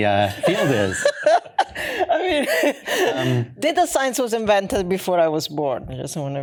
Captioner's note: laughs